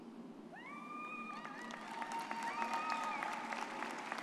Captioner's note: audience cheers